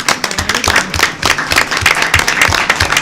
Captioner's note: applause